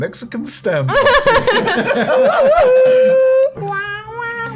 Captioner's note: laughter